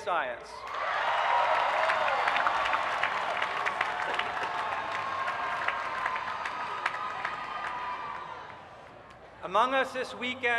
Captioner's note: cheering